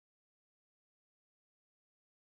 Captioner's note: none